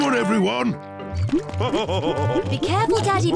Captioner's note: laughs